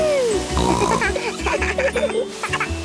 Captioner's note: snorting; giggling; laughter